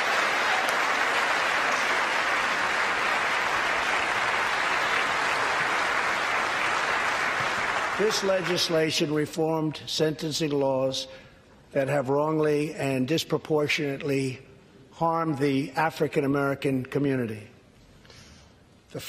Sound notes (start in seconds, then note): 4.1 applause